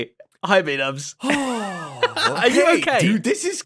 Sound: laughs

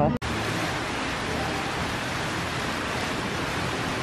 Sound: water flowing

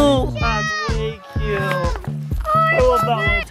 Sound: group chattering

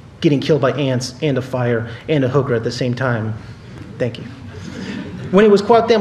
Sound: laughter

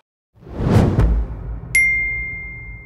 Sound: screen rumbles; bell dings

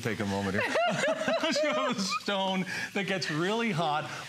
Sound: laughter

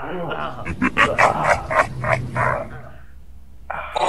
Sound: laugh

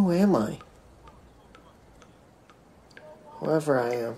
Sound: water dripping

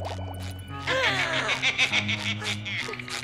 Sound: evil laughter

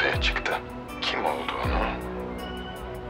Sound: Akif voice

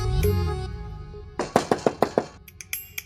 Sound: knocking on door

